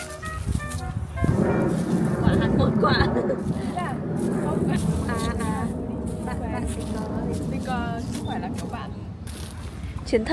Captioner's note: chattering